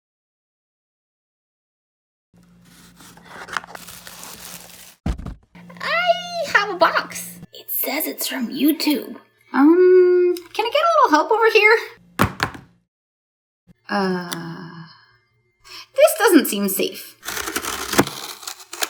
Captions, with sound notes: (rustling) I have a box. It says it's from YouTube. Um, can I get a little help over here? (thud) Uh.... This doesn't seem safe.